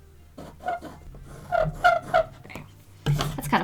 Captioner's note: pencils screeching